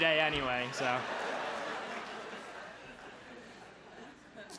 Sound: crowd laughs

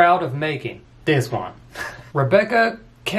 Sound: laughs

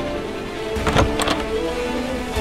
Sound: door opens

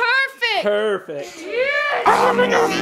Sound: child screams

